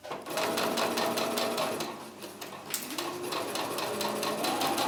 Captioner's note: sewing machine running